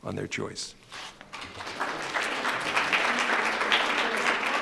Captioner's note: applause